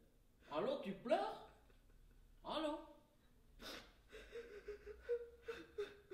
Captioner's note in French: sanglots